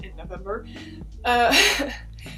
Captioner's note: laughs